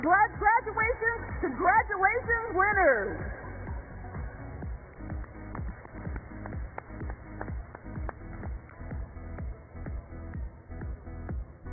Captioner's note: cheers and applause